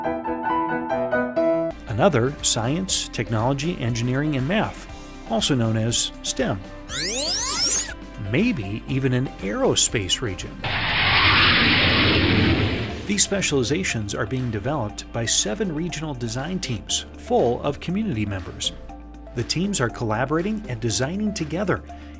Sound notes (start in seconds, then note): 6.9 robot sounds; 10.6 jet engine sound